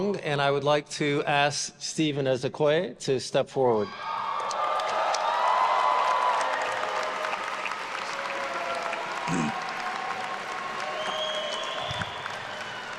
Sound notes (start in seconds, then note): 4.0 attendees cheering and applauding